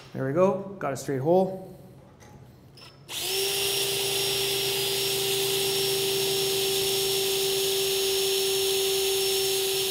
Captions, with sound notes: There we go, got a straight hole. (drill buzzing)